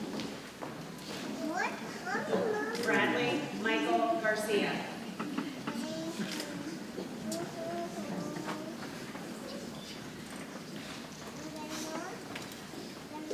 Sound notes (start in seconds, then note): 5.9 people chattering softly